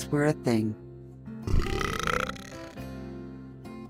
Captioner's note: buh-urrrrp!